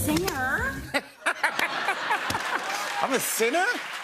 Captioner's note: laughter